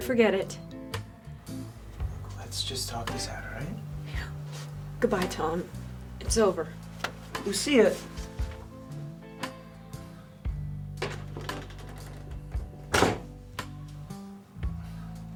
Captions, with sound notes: - Forget it. (Soft music) - Let's just talk this out, all right? - Yeah. Goodbye Tom. It's over. - Lucia. (door slams)